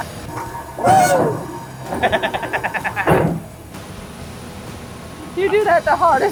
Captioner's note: machine sounds; laughs